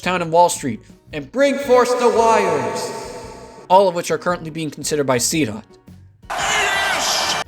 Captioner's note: cheers